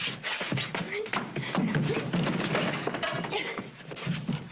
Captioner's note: grunting